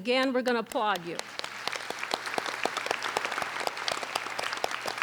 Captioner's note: applauding